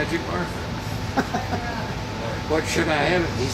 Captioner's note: laughing